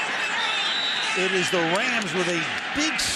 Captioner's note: whistle blows